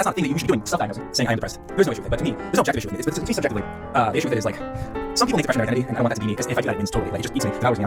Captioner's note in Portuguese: gaguejando